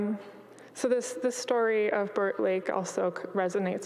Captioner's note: none